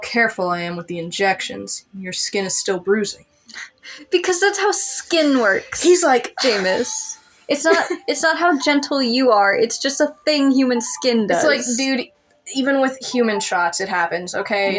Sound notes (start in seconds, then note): 7.0 sigh; 7.4 laugh